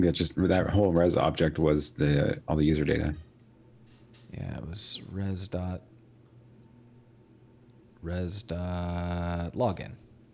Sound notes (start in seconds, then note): none